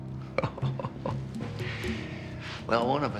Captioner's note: Jonas chuckling